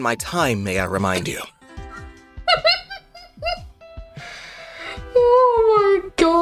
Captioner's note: more barely contained laughter